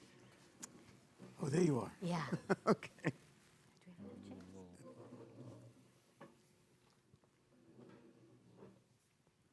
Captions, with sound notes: - Oh, there you are, (chuckles) okay.